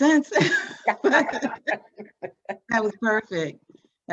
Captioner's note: both laughing